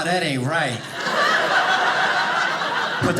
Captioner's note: audience laughing